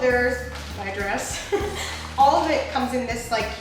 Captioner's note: chuckles